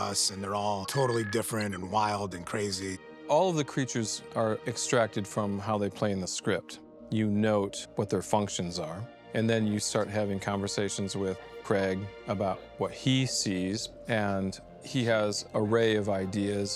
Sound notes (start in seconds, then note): 13.1 indistinct chatter